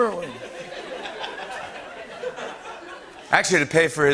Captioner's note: laughter